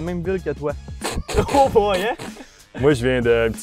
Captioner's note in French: rires